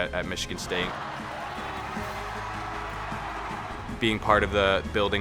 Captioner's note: crowd murmurs and cheers